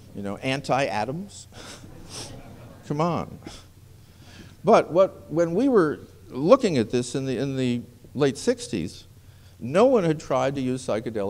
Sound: laughter

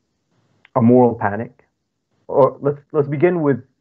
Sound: foreign language

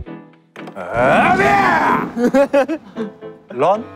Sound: loud shout

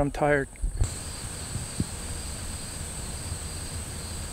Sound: animals chirping

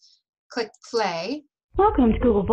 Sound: voice recording playback

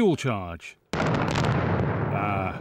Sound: boom!

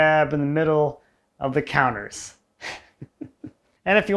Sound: laughs

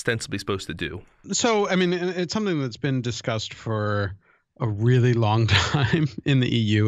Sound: chuckle

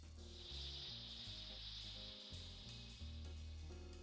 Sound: insects flying

